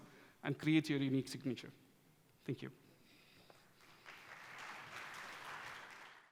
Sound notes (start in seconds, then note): 3.6 applause